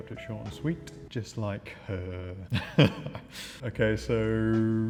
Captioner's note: chuckling